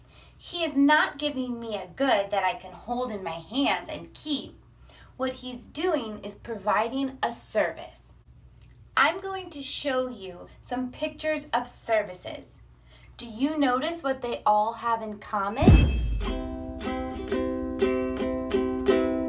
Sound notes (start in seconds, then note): 15.6 whooshing; 15.6 guitar music